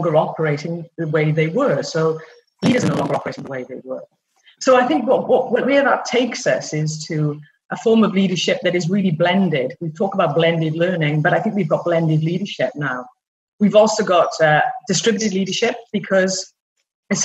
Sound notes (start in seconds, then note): 2.6 noise on call